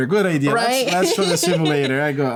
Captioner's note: laughter